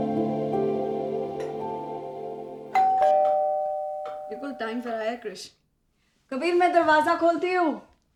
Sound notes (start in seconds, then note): 2.7 door Bell Ring